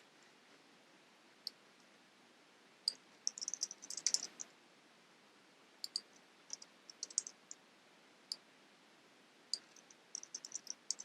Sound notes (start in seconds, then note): 1.6 typing and clicking